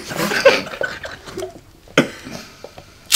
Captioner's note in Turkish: gülme sesleri